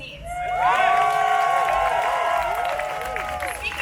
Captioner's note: AUDIENCE: Cheering